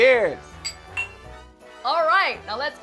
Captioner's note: glasses clinking